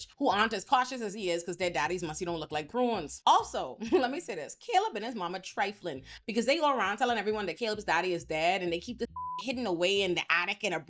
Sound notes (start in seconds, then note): 9.0 beep